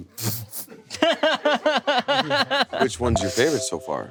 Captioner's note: people laughing